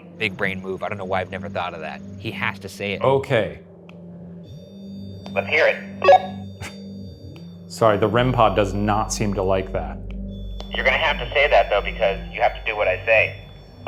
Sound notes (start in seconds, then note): 5.6 REM-Pod beeping; 6.7 chuckles